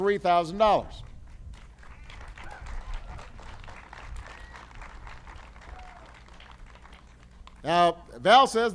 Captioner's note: applause